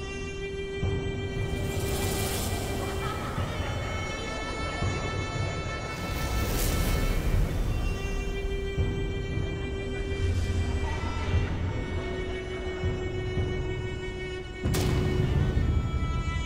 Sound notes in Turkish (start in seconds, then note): 2.9 Kahkaha ve Uğultu Sesleri; 7.9 Uğultu Sesleri; 14.7 Adım Sesleri